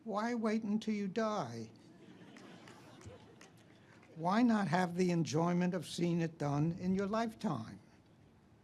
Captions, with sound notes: Why wait until you die? (audience laughs) Why not have the enjoyment of seeing it done in your lifetime?"